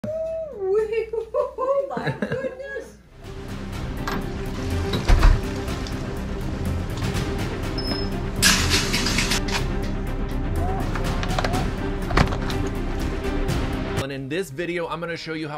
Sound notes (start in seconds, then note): 1.0 chuckles; 1.9 man chuckles; 3.3 dramatic music; 4.4 door hinges squeaking; 5.3 dramatic music; 8.3 metal rattling; 12.6 door hinges squeaking